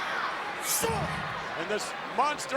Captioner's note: foot thuds; Yokozuna grunts